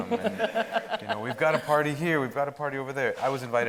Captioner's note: audience laughing